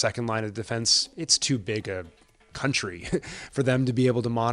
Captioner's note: chuckles